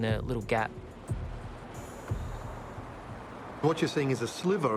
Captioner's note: car engines revving